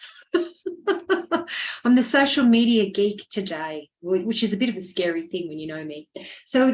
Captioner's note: laughing